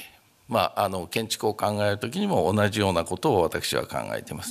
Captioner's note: speaking japanese